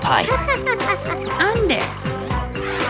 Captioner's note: giggling